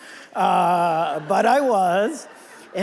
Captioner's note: audience laughing